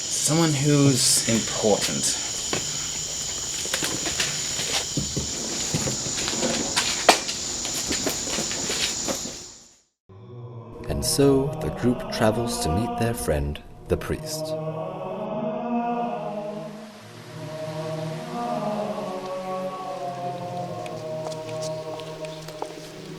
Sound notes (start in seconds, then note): 4.1 footsteps